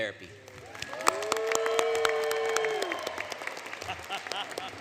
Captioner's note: applause; applause, Laughter